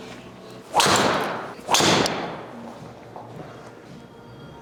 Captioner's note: golf club whacks